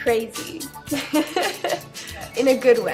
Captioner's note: laughing